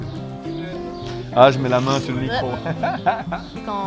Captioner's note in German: Er lacht